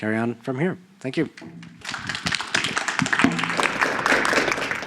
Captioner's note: applause